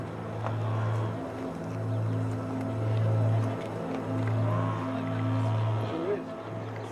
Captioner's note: gentle music continues; tourists chattering